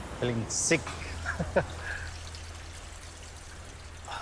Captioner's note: chuckles